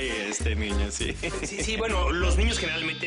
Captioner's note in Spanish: Risas